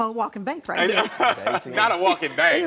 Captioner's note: Karamo laughing